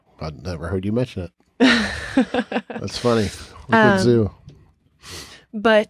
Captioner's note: chuckles